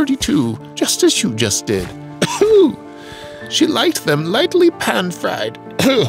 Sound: cough wheeze

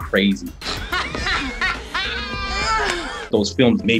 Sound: laughs

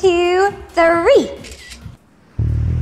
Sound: camera shutter clicks

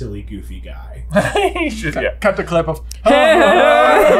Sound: giggles

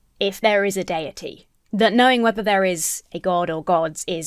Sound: none

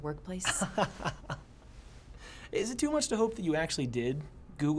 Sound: laughs

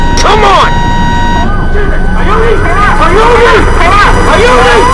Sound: automated voice; automated voice

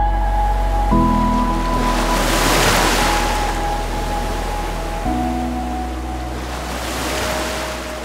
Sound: ocean wave sounds

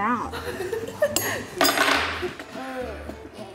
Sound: laughter

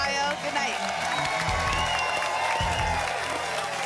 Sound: applause and cheering cont

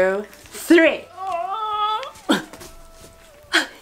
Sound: grunts with effort

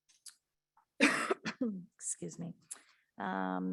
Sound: coughs

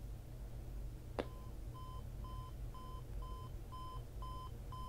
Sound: alarm beeping

